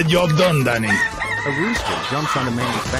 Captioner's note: rooster squawks